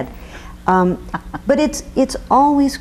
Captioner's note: chuckles